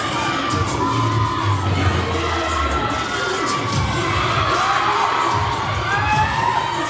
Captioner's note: cheer music continues; audience cheering